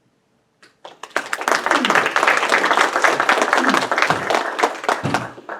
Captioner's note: audience applauds